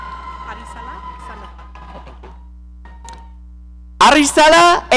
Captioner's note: audience cheering